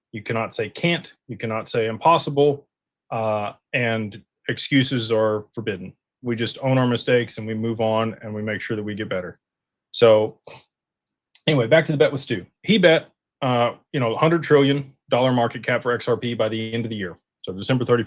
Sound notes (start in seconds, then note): 9.9 snorts